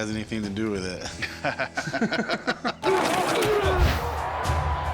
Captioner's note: laughter